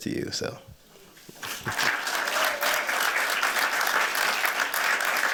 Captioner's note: applause